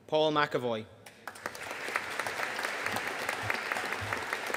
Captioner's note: audience applauding